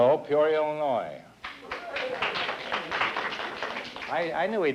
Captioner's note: applause